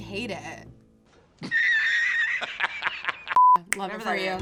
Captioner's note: man laughing